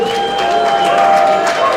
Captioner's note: applause